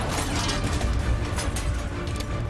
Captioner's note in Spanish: Disparos